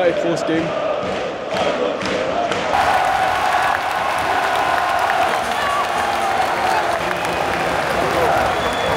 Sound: applause

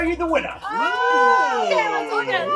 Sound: group oohing

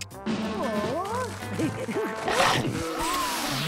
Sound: giggling

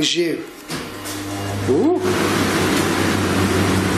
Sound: whirring

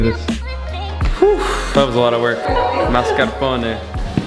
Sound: phew

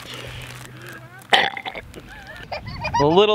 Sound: girl burps; children laugh

